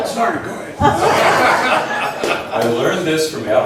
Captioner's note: laughs